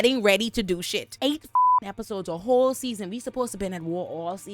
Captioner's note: beep